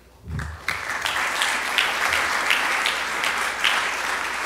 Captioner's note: audience clapping